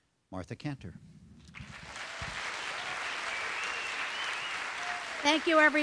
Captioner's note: applause